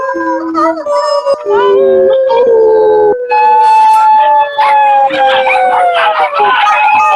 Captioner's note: howling